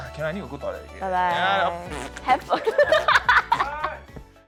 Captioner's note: makes farts noises